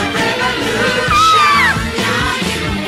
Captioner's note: Sweet Polly Purebred Screams